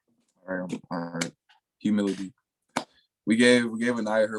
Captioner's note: jumbled speed